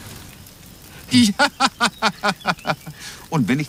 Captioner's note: lacht; laughs